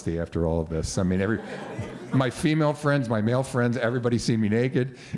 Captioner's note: laughter